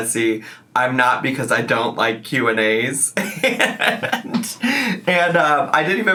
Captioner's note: laughs